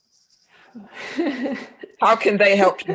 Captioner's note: laughter